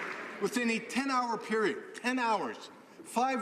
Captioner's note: some Applause